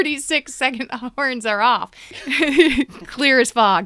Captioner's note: laughter; much laughter